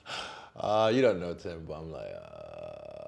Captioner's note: laughing